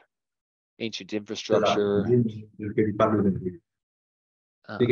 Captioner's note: chatter